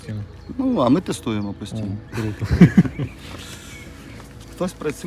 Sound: laughing

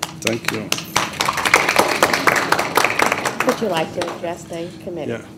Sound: applause

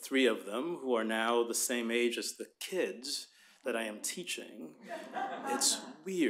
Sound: laughter

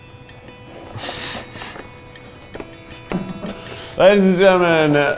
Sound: laughs

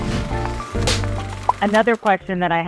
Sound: board snapping

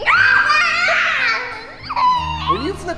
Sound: screaming

